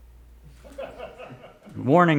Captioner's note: laughs